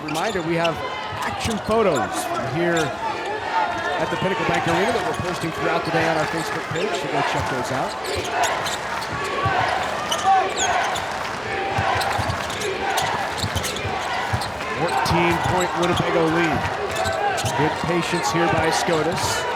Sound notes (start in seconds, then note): 7.2 crowd